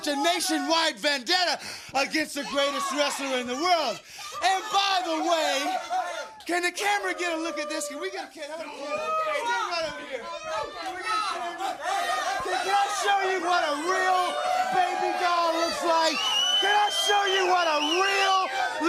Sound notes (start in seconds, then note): 13.6 crowd chatter; 15.1 crowd cheering